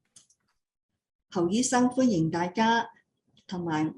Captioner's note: non-english speech